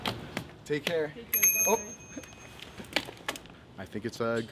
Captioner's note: bicycle bell rings